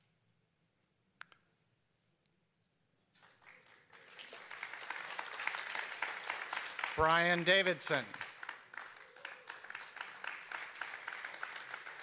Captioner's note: applause